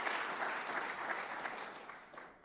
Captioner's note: applause